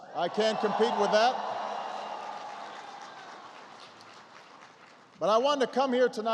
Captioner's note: applause